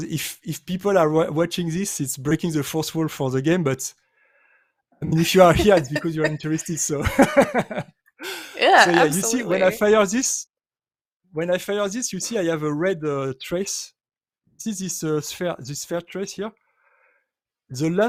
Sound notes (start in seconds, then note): 7.1 laughs